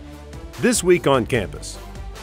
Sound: voiceover

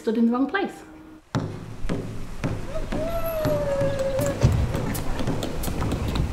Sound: drumbeats, cheering

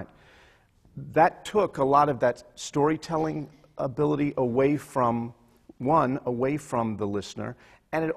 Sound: none

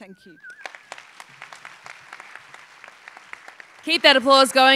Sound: applause

